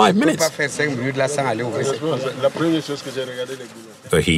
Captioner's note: foreign language